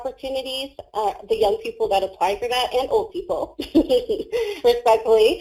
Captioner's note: laughs